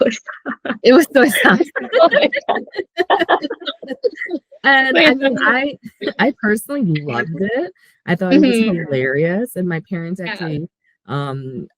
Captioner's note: laughing